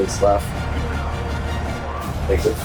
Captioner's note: crowd Noises